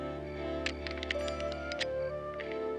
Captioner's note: metallic rattling